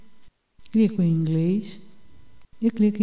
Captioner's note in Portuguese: Inglês